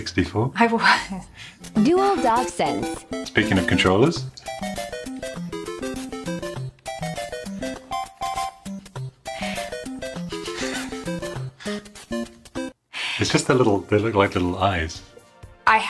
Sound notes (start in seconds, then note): 4.4 video game music; 10.2 chuckle